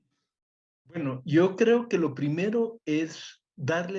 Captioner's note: speaks Spanish